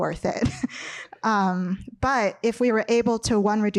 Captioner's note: chuckles